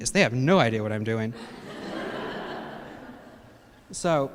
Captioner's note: laughter